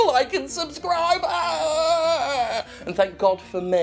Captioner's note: moaning, I guess? It's kind of gross